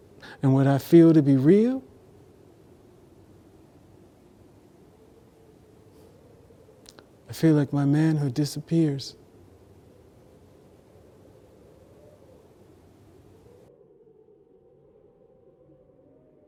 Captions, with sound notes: and what I feel to be real, I feel like my manhood disappears. (wind howling)